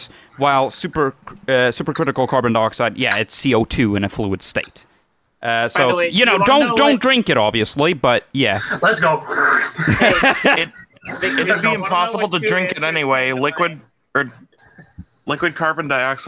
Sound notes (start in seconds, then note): 9.3 slurping; 9.7 laughter